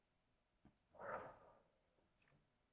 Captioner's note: awkward pause; deep breath